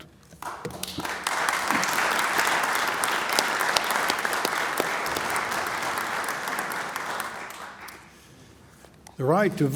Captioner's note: applause